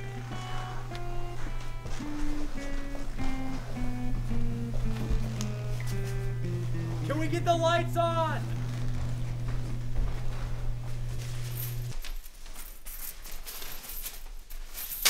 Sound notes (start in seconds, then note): 0.9 sneaky footsteps